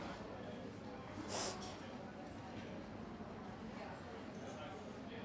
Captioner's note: Dana sniffs